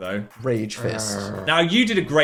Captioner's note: growls